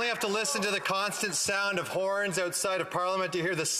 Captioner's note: applause